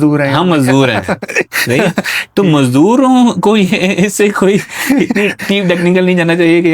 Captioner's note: laughter